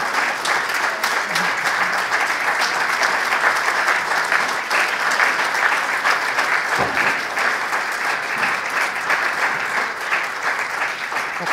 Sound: applause

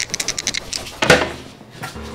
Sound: cabinet door slamming

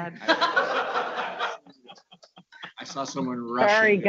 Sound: audience laughing

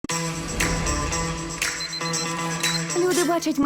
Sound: intriguing music playing; alarm ringing

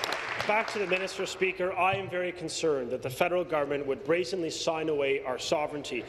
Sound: applause

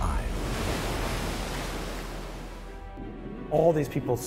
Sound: wave crashes

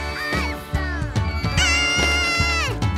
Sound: shrieking

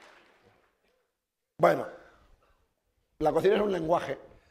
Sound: speaking spanish

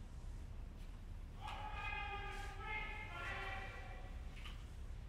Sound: prisoner shouting in the background

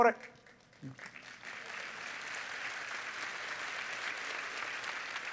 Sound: applause

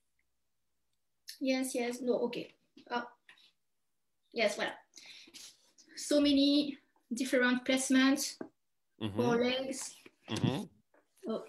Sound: laughs

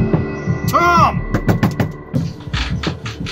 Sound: knocks door

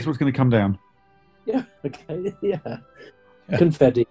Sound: chuckling

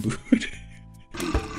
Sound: laughs

